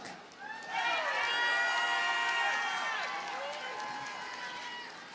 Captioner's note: audience cheers and applauds